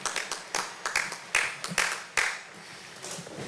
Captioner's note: applause